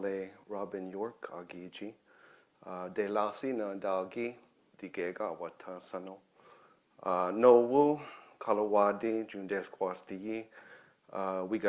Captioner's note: speaking own language